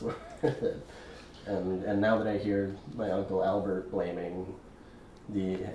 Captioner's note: laughing